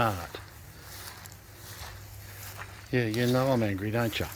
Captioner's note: footsteps sloshing